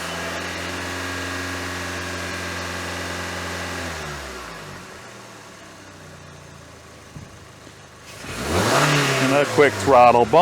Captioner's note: engine Revving up Sound